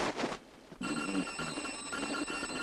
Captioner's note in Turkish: telefon çalar